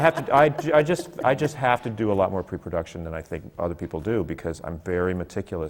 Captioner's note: laughs